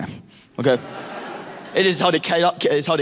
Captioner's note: audience laughing